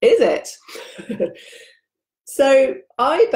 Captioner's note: laughs